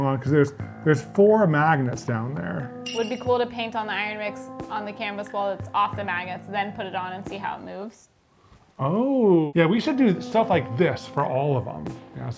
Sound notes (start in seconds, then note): 2.8 chime rings